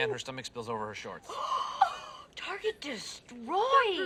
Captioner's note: shirley and britta gasp